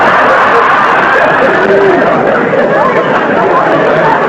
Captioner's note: raucous laughter